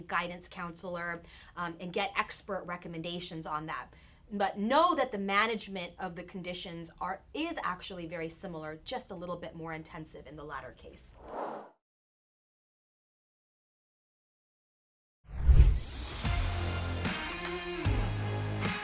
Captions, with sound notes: guidance counselor and get expert recommendations on that. But know that the management of the conditions is actually actually very similar just a little bit more extensive in the latter case. (air whooshing) (upbeat music)